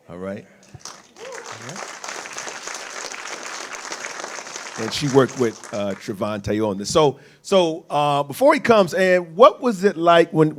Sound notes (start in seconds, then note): 0.8 audience cheers